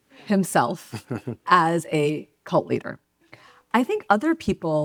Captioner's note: laughs